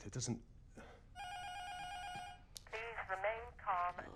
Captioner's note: intercom buzzer rings; intercom